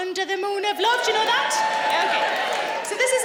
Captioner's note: cheering